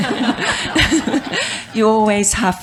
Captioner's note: laughter